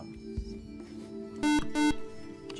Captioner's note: buzzer